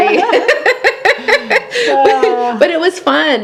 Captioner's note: laughing